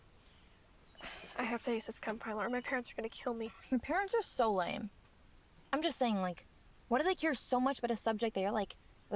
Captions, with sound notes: - (sighs) I have to ace this chem final or my parents are gonna kill me. - Your parents are so lame. I'm just saying like, why do they care so much about a subject that you're like